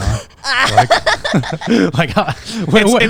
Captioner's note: everyone laughing